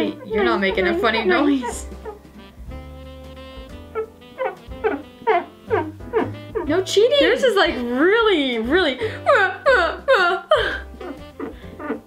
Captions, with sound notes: You're now making a funny noise. (finger squeaks when drawing) No cheating! - Yours is like really really (squeak noises).